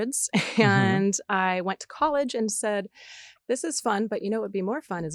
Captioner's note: chuckles